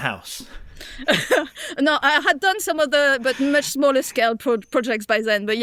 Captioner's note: laughs